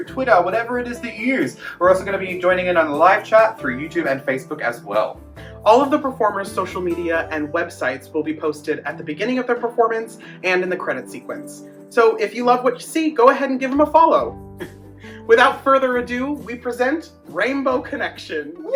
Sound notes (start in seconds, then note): 14.4 chuckles